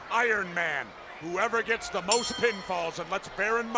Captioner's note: bell ringing